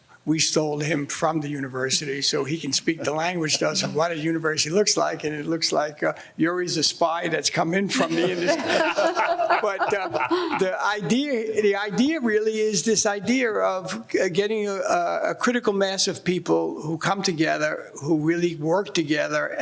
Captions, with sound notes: We stole him from the university so he can speak the language to us of what a university looks like, and it looks like Yuri's a spy that's come in from the industry. (laughing) The idea really is this idea of getting a critical mass of people who come together who really work together